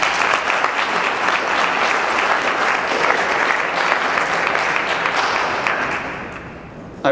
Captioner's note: clapping